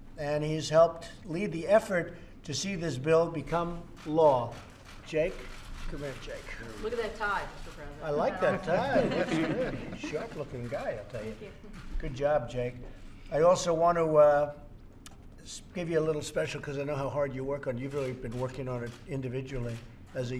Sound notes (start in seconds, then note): 10.5 laughter